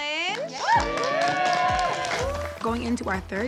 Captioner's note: cheering